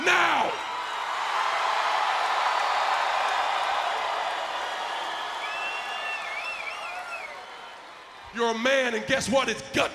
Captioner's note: applause